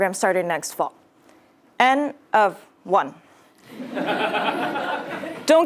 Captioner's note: laugh